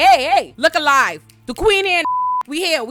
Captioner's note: beep